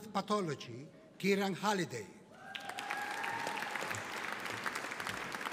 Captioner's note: audience applauding